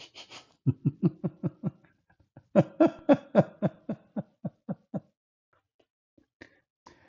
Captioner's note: Ketawa